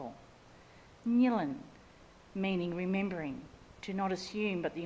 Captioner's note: speaks in Ngunnawal language